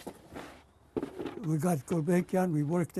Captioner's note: non-english